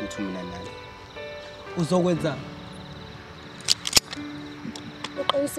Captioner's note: gun setting